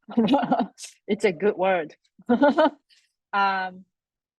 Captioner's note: laughs; laughs